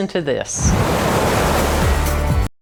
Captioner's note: water gushing